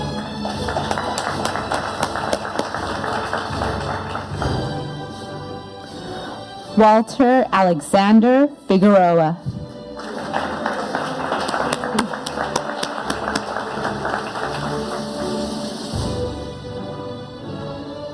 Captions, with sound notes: (audience applauding) Walter Alexander Figueroa. (audience applauding) (upbeat music)